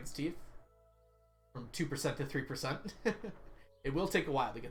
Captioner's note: laughs